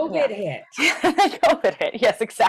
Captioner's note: laughs